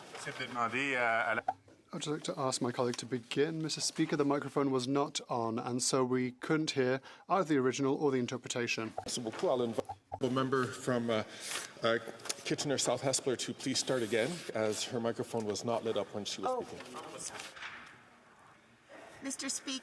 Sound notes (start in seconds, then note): 1.4 speaking French